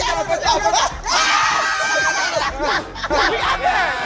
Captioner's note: campers cheering; campers screaming; campers cheering